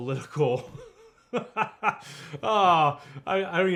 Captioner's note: laughing